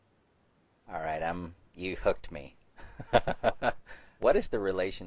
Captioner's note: laughs